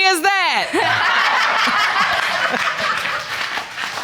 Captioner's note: audience laughing